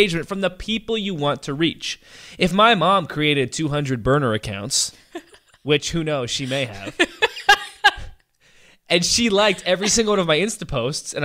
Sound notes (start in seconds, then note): 4.8 laughs; 6.4 laughs louder